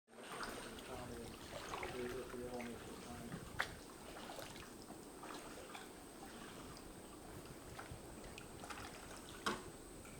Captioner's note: splashing sounds